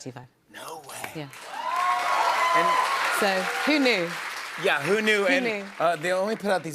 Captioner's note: cheers and applause